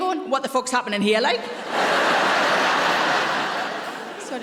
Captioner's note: audience laughing